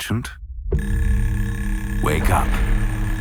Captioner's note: alarm blares